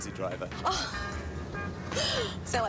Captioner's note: laughs